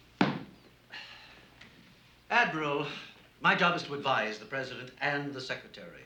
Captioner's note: exhales